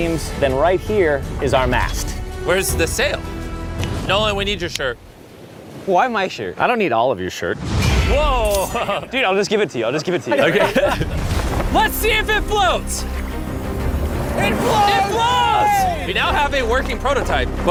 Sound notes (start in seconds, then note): 10.0 laughs; 14.4 cheering